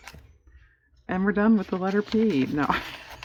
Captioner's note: laughs